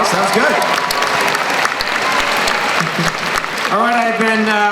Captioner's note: applause